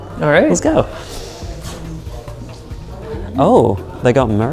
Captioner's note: people chattering